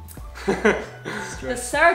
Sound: giggles

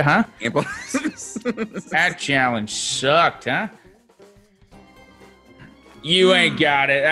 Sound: laugh

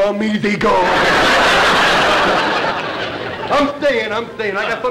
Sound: audience laughter

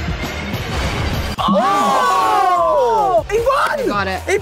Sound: all shouting

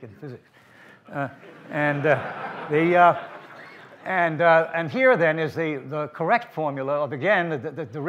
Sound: laughter from the audience

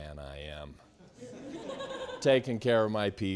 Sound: students laughing

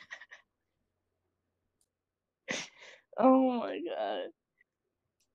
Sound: laughs

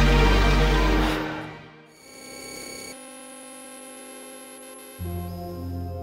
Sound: music stops abruptly; machine scanning; gentle music begins

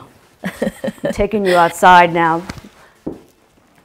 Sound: laughs

